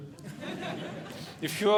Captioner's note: audience Laughing